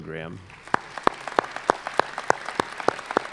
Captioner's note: applause